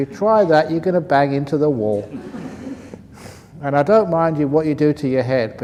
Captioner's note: laughs